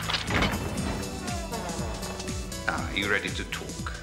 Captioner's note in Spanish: la puerta cruje abierta